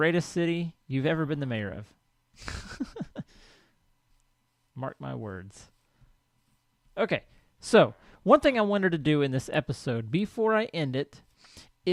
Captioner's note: laughs